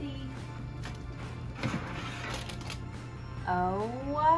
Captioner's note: quiet upbeat music; tray grating